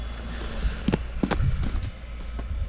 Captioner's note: footsteps thumping